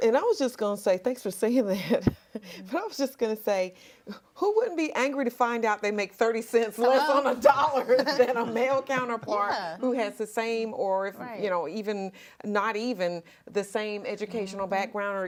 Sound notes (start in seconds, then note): 2.5 laughs; 9.1 all laughing